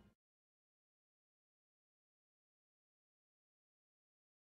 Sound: silence

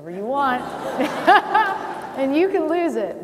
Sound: laughing

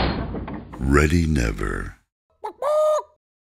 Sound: chicken chirp sound

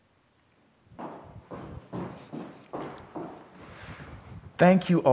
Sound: rapid footsteps

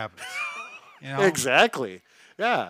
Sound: laughing

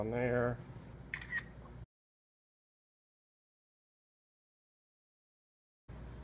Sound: camera shutter sound

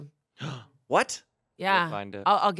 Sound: gasps

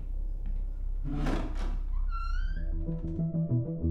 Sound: door creaks

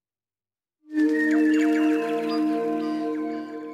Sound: birdsong

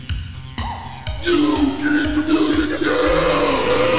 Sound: bellowing

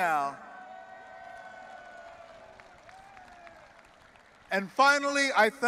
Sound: audience applauding and cheering

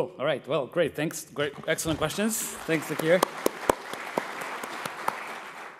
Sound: applause

